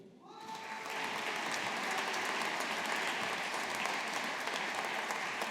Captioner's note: audience applauding